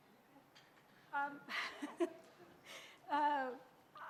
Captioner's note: laughs